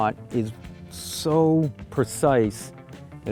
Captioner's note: none